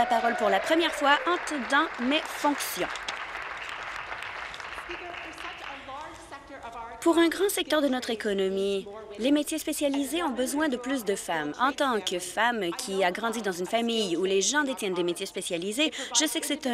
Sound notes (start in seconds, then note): 4.9 applause